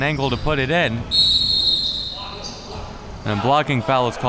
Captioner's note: whistle blowing